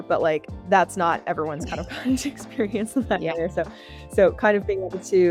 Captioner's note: both laughing